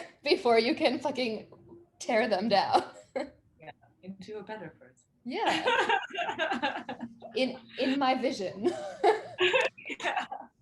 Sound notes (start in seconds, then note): 5.4 laughing